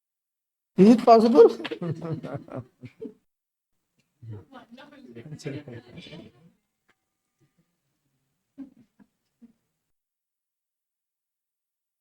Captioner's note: laughs